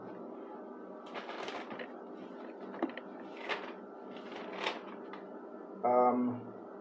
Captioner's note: paper scattering